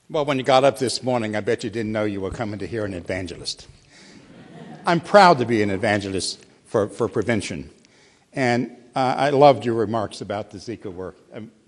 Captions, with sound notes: >> Well when you got up this morning I bet you didn't know you were coming to hear an evangelist. [laughter] I'm proud to be an evangelist for prevention, and I loved your remarks about the Zika work.